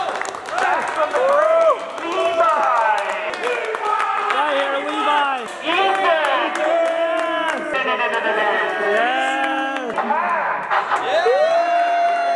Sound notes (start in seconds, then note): 0.1 guys clapping; 5.9 group cheers